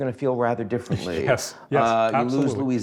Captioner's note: laughing